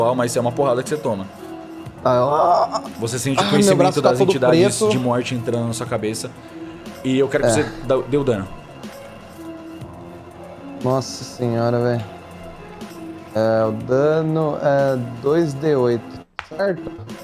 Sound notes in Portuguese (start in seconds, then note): 3.3 gemidos